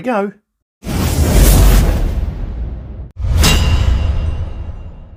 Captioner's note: air whooshing